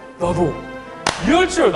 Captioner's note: clap